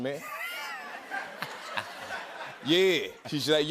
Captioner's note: laughter